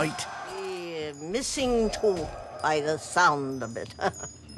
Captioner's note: chuckles